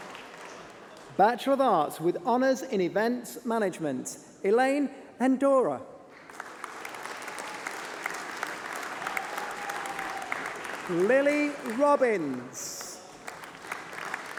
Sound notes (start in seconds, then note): 6.1 applause